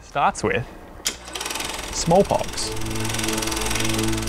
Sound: film reel clicks

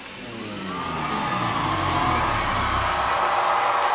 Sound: audience cheering

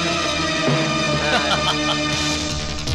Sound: laughing

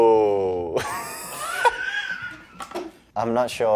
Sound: laughs

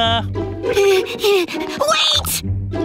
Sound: panting

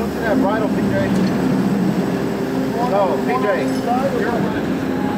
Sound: trunk lid creaking

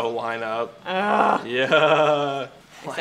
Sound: groans

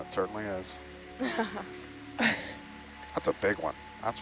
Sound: speakers laughing

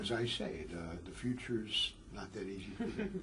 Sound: laugh

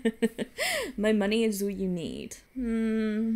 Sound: laughs

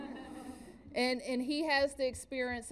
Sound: laughter

